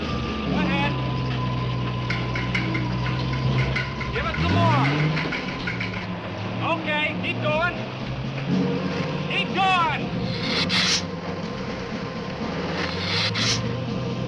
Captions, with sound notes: Go ahead. Give it some more. Okay, keep going. Keep going. (lizard hissing)